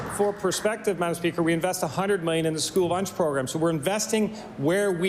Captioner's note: applause